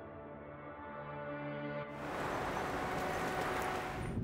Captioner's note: traffic sound